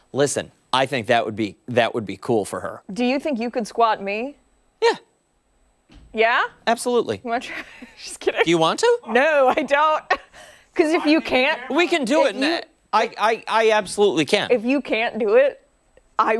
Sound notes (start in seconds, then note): 12.5 laughter